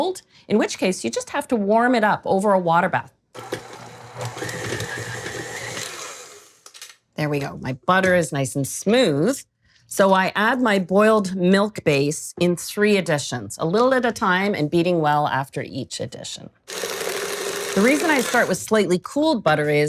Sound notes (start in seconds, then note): 3.4 loud whirring